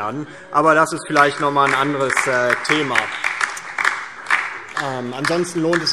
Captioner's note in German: Heiterkeit und Beifall DIE LINKE und vereinzelt SPD